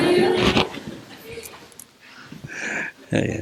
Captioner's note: general laughter